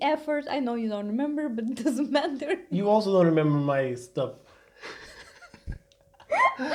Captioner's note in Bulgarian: Смях